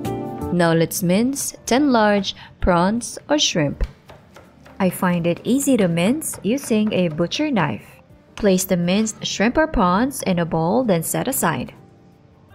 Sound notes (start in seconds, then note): 7.4 knife thudding